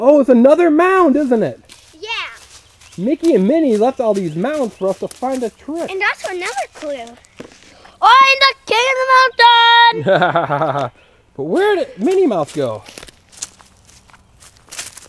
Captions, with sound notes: - [Voiceover] Oh it's another mound, isn't it? - Yeah. - [Voiceover] Mickey and Minnie left all these mounds for us to find the trip. - And that's another clue. - [Voiceover] Where did Minnie Mouse go?